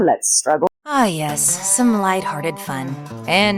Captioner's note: regular narrating voice